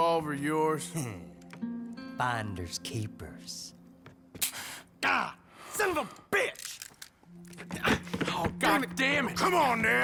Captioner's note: laughs